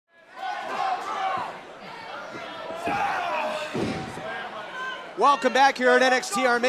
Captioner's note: fans chanting